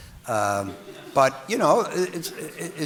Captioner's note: audience laughing